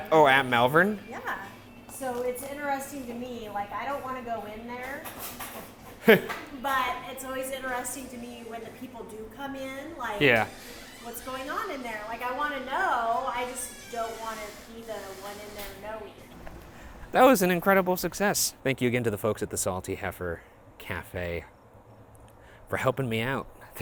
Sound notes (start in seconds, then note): 6.0 laughs